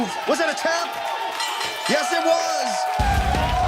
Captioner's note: bell rings